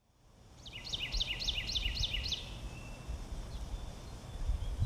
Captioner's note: bird chirping